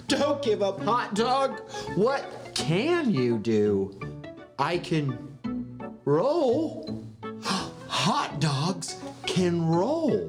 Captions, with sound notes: Don't give up, hot dog. What can you do? I can roll. (gasps) Hot dogs can roll.